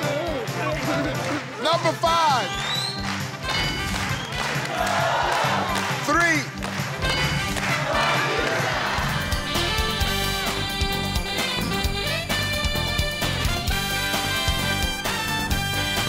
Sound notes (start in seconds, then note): 3.5 ding; 7.1 ding; 9.2 upbeat music